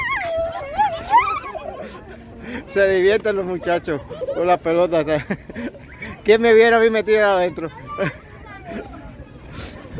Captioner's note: laughs